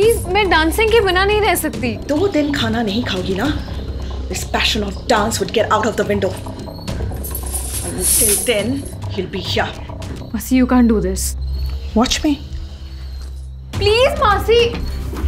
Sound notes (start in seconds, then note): 6.9 Sound of anklets